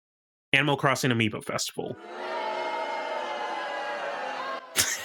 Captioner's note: crowd Boos